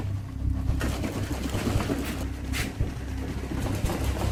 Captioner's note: boxes shaking